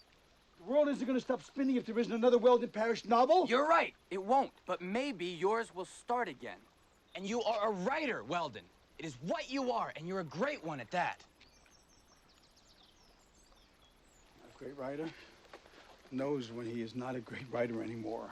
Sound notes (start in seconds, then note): none